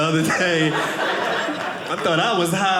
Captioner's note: audience laughing